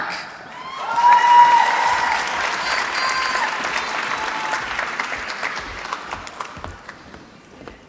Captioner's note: applause